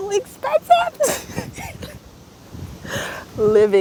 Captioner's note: laughs again in frustration, anxiety, and disbelief